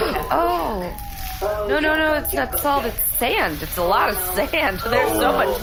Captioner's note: nervous laughter